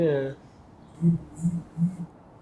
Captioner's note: phone vibrating